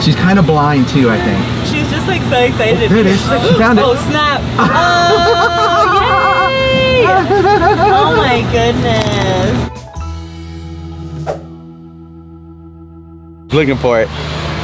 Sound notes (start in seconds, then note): 4.5 laughing